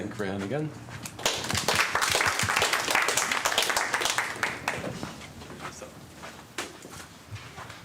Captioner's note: applause